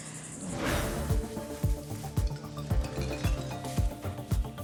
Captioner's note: intense music; junk clattering